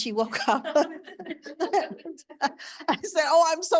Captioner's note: audience laughing